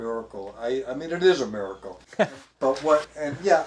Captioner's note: chuckling